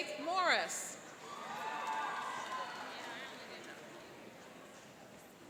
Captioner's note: cheering and applauding